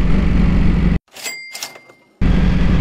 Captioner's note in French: bruit de caisse enregistreuse